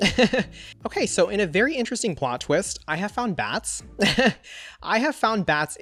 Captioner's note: laughs; laughs